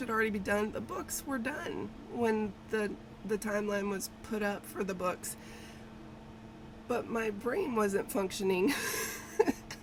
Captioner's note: laughs